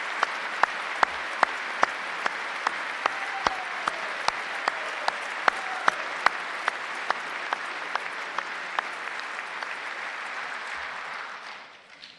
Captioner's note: applause